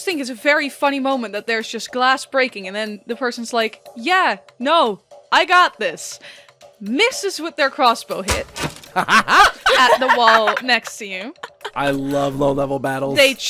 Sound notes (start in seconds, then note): 7.9 sharp thunk and twang of an arrow; 8.9 laughter